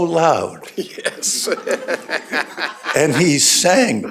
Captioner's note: laughter